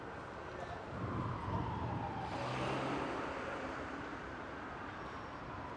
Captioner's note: siren blaring, traffic